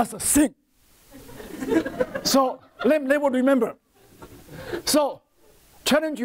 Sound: laughter from audience

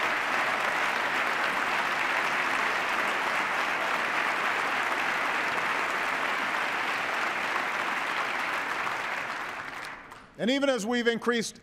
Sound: cheers, applause

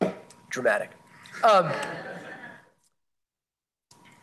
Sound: laughter

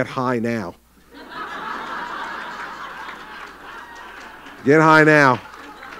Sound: laughter

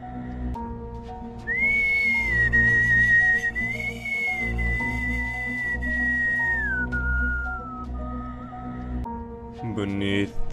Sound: whistling

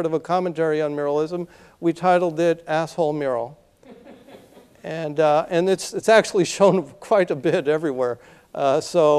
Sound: laughter

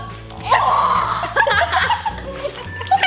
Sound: laughter

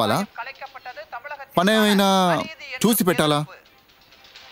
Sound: other language

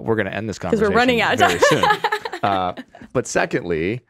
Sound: laughs

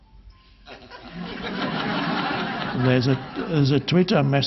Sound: audience laughing

